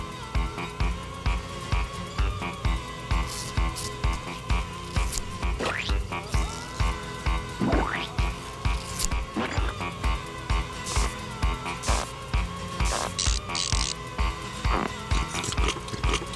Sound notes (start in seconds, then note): 4.8 squish; 8.6 squish; 13.2 cracking; 14.7 squishing